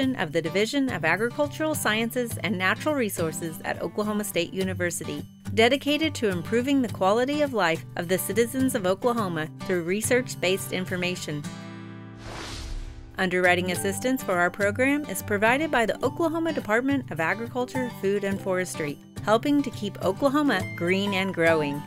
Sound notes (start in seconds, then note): 12.2 title card whooshes; 21.6 mellow music